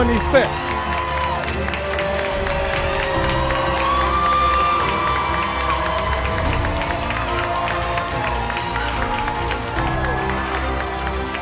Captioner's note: cheering & Music